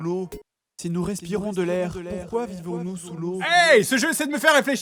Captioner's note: echo